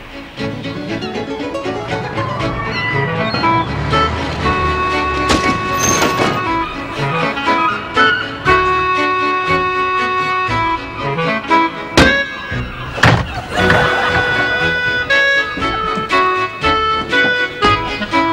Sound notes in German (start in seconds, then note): 7.6 Möwengeschrei